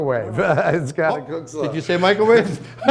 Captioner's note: laughs